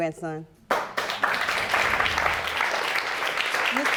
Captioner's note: audience applauding